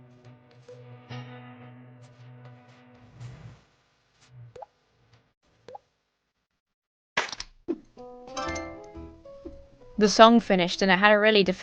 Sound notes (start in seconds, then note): 8.4 creatures tinkling